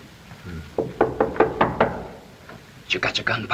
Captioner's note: knocking on door